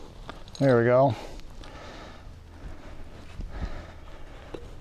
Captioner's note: panting